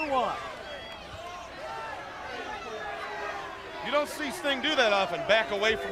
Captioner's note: crowd chatter